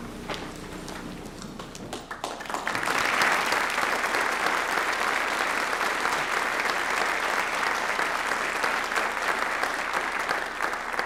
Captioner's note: applause